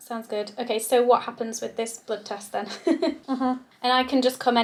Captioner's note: laughs